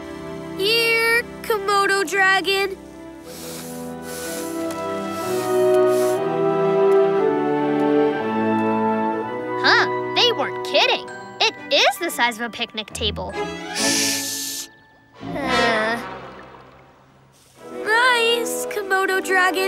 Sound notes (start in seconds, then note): none